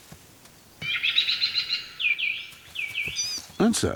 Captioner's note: bird calls